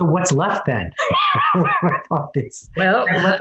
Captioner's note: laughs